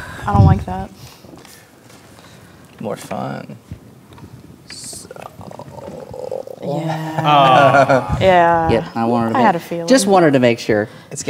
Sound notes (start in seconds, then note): 6.7 players laughing